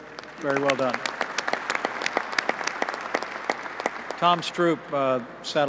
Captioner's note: applause